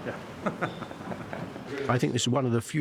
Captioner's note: all chuckling